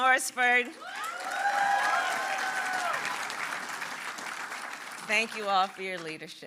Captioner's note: applause